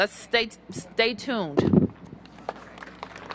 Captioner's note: applause